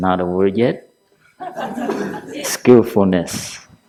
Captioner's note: laughter